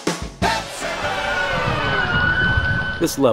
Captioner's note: pitched down